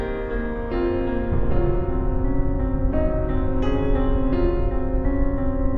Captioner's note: muffled explosion